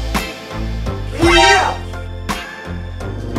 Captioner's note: Shocked sound